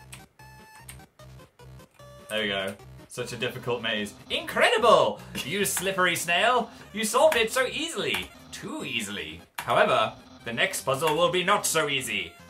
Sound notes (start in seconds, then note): 4.8 laughs quietly